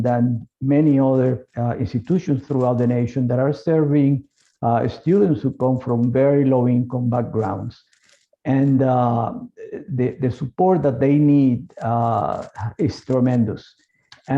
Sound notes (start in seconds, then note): none